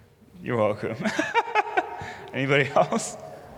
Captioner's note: laughs